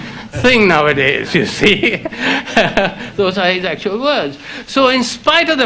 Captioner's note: laughs